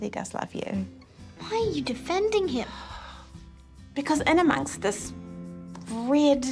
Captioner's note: sighs